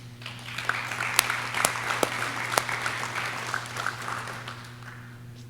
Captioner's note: audience cheering